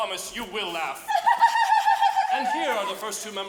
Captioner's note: girls tittering